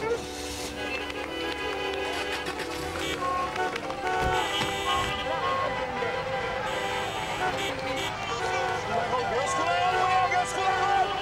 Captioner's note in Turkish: Korna Çalıyorlar